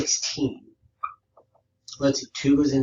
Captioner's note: marker squeaks